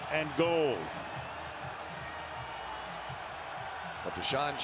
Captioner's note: cheering